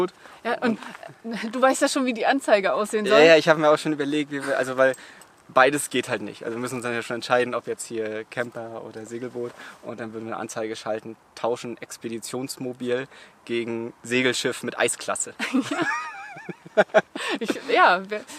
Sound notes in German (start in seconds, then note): 15.4 beide lachen